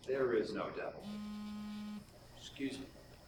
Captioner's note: cell phone vibrates